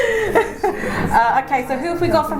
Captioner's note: laughs